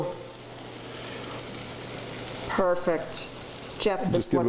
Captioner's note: sizzling